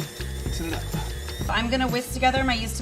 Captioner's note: machine whirs